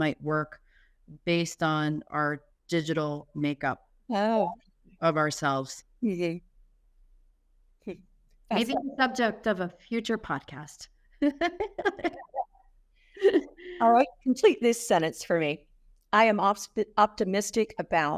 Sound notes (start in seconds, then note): 11.2 laughter